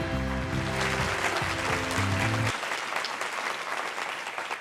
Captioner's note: audience clapping